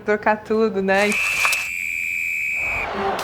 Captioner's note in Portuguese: apito